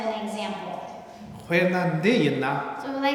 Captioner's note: speaking tibetan